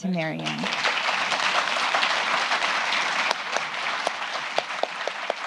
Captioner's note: applause